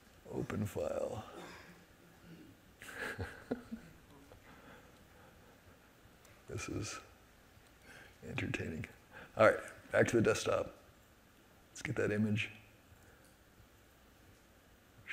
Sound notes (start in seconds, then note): 2.8 chuckles